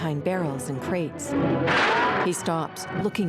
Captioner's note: gunshot